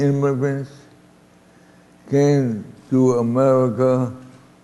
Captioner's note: none